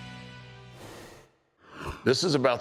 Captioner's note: rushing sound plays